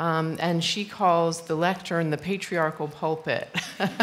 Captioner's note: laughter